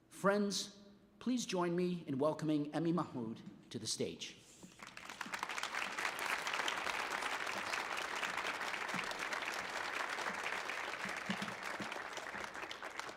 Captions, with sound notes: Friends, please join me in welcoming Emi Mahmoud to the stage. (audience applauding)